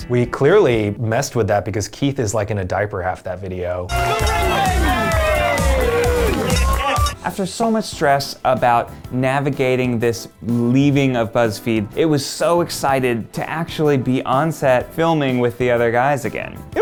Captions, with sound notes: We clearly messed with that because Keith is like, in a diaper half that video. (cheering) - [Male Voice] The ring baby! (cheering) - After so much stress about navigating this leaving of Buzzfeed, it was so excited to actually be on set filming with the other guys again.